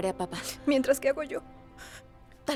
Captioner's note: Solloza